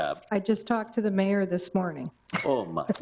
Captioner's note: laughs